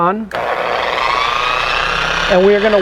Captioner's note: polisher working